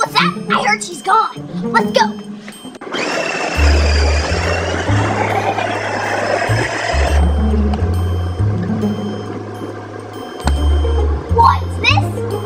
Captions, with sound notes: What's that, I heard she's gone. Let's go. (tank engine revs) (suspenseful music) What's this?